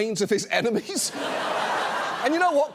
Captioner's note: audience laughs